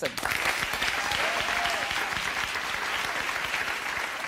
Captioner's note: audience cheering